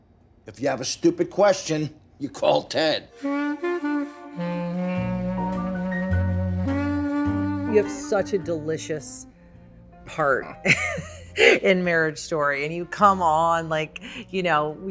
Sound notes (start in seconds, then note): 3.1 jazzy saxophone music; 10.6 laughs